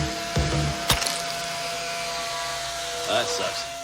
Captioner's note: glass cracks